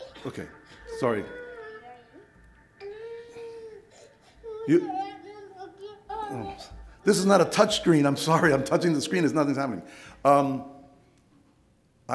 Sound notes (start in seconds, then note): 0.0 Spanish speaking; 2.8 crying